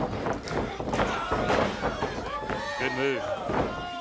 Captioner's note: crowd cheering